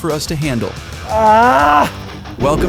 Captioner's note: screams